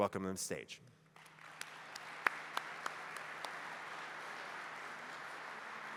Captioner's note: applause